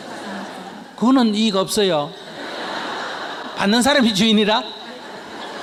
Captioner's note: audience Laughter